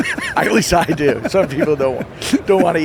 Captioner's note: laughing